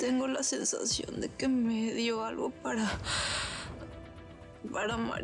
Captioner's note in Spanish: exhala